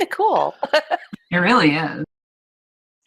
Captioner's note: laughs